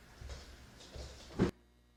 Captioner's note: thump